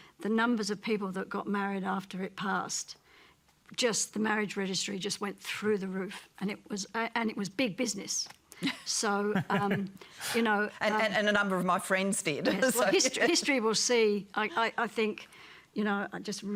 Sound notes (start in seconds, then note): 9.2 laughs